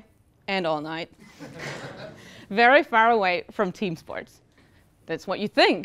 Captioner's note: laugh